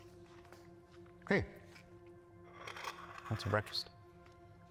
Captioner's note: plate scraping